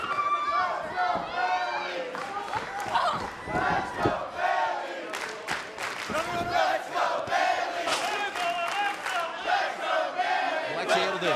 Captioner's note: fans chanting